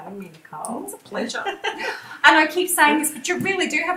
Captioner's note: laughs